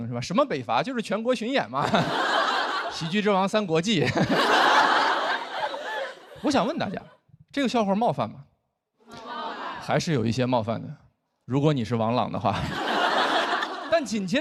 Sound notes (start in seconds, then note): 1.4 laughter; 12.5 laughter